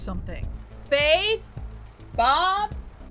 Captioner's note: shouting out car window